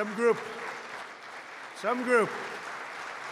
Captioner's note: applause